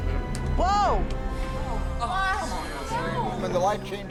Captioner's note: workers clamoring